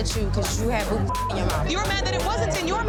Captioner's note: beeps